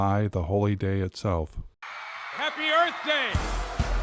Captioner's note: crowd screaming